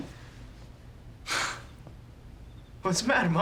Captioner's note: laughs